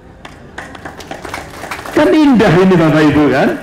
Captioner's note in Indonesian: tepuk tangan